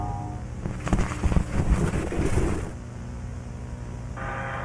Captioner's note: static hissing